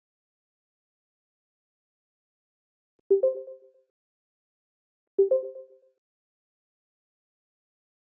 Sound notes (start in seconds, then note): 3.2 computer chimes